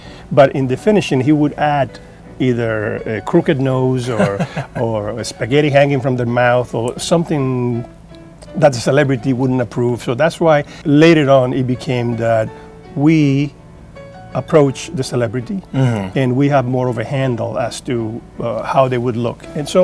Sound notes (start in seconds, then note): 4.1 laughing